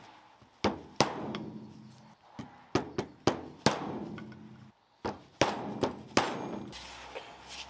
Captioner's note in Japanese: トンカチ音